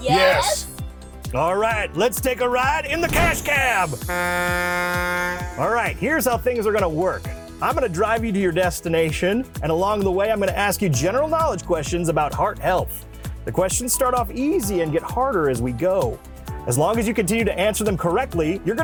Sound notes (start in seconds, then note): 3.9 horn honking